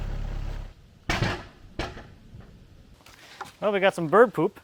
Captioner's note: wood clashing against metal